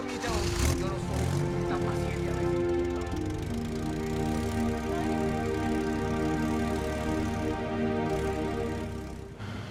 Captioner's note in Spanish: Ruido del vehículo